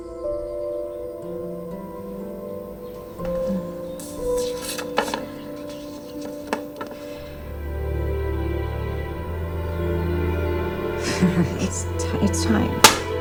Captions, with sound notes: [dramatic music] [chuckles] It's t-- it's time.